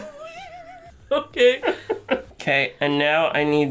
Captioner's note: laughter